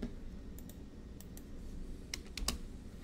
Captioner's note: keyboard typing; mouse clicks; keyboard typing